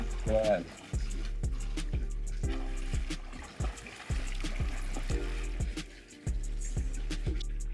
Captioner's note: water splashing